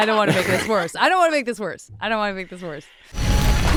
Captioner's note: laughing